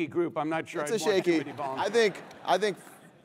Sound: laugh

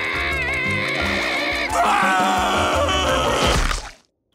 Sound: grunting; screaming; cracking

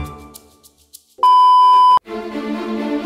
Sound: beeping; theatrical music

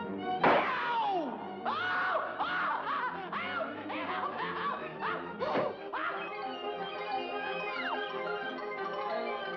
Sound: screams

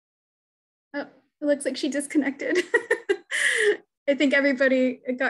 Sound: laughs

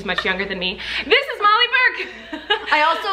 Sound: laughs

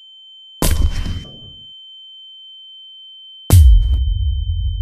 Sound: ears ringing

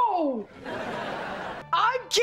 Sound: laughing

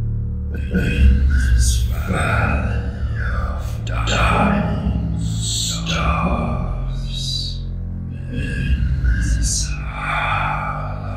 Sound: scary Voice

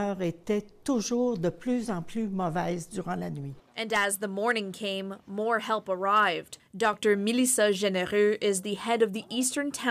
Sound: speaking french

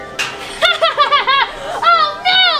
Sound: laughing

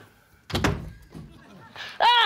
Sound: door slams open

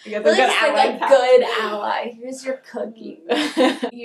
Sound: snickers; sarcastically; laughing

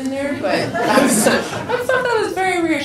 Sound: people laugh

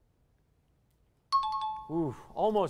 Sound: timer bell

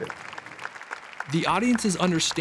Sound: applause

